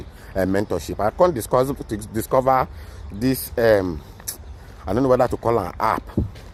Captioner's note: smacks lips